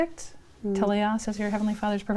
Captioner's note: speaking in foreign language